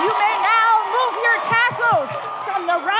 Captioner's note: audience cheers